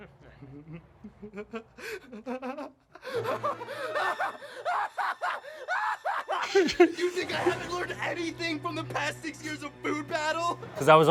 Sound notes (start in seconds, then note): 0.3 dramatic music; 0.4 laughs